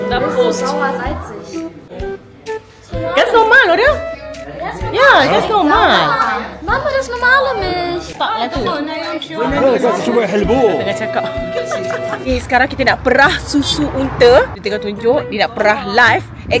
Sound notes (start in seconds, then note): 0.2 speaking German; 11.2 laugh